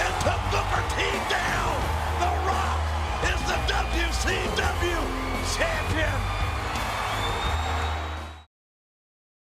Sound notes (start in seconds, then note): 6.5 crowd cheering; 6.5 upbeat music